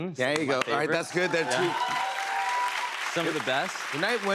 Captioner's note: cheers and applause